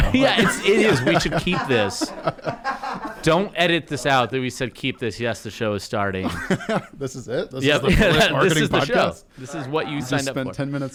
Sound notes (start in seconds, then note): 2.0 laughter